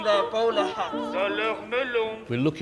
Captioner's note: translator speaks in foreign language